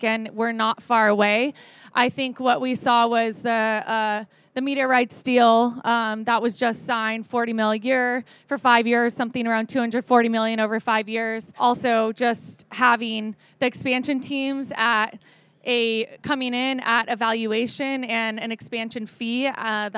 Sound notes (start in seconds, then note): none